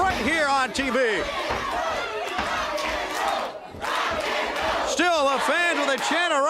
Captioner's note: crowd cheering